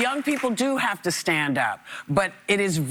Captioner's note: applause